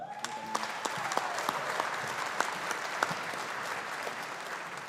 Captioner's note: audience applauding